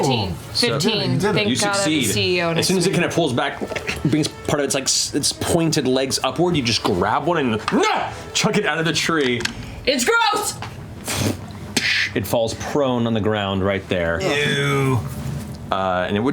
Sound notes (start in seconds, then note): 7.7 yells